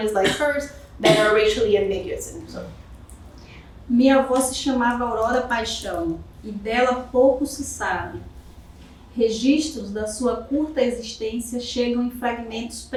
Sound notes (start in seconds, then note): 4.3 speaking portuguese